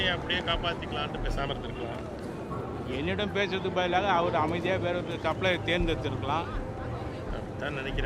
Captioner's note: speaking Tamil